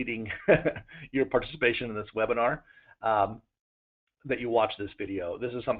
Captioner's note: laughter